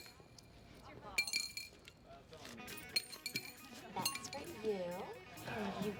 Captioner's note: chuckles